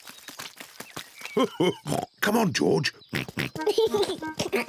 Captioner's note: oinks and giggles; chuckles